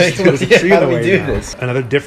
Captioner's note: laughs